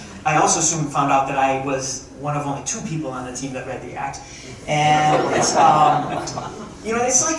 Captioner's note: crowd chuckling